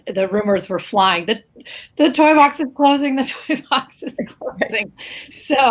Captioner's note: laughs